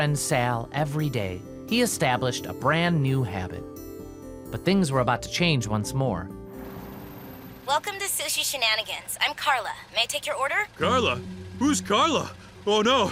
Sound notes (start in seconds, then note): 6.6 car idling; 10.6 tense music